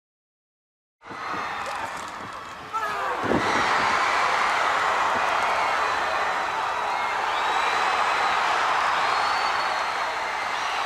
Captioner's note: crowd cheering